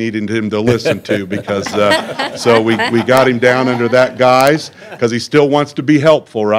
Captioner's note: laughter